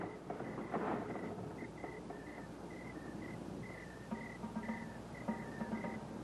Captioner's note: crickets chirping; suspenseful music